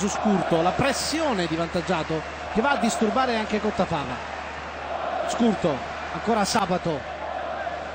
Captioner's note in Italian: Applauso